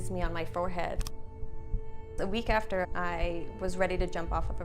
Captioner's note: heart beating